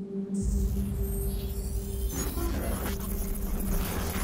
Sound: technology beeping

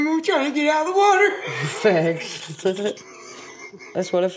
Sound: laughter

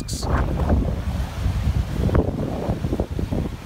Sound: waves crushing

